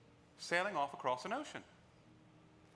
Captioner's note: none